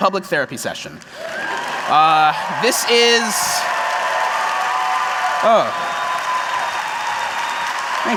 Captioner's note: applause and cheers